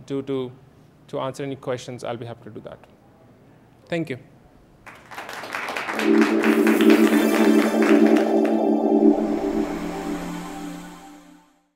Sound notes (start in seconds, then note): 4.8 applause